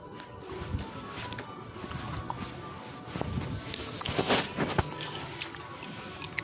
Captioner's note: there's gum chewing. Sorry